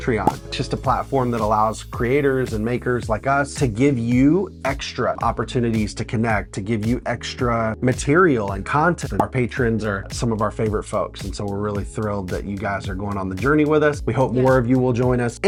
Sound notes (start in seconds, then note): none